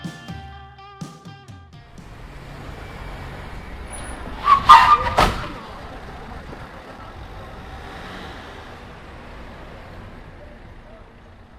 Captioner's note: car Crash Sound